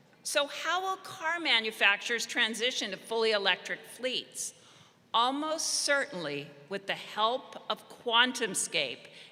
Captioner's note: none